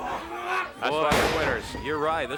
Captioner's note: body thudding